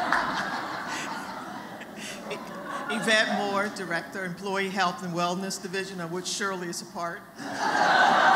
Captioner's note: laughter